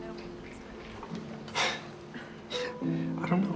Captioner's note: Max sighs